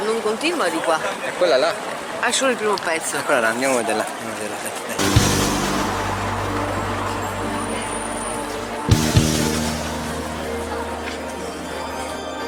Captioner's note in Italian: Applauso